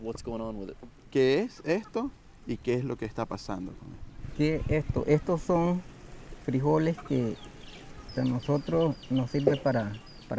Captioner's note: speaking Spanish